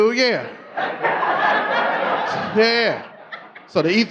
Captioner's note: audience laughing